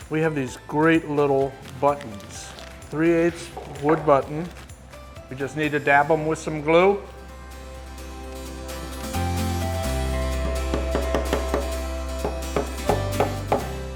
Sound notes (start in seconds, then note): 8.5 upbeat music; 8.5 wood hammering